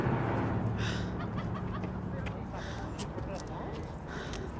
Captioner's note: hard breathing